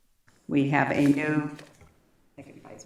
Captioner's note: speaking in spanish